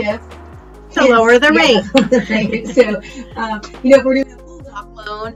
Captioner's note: laughs